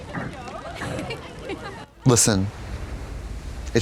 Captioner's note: laughing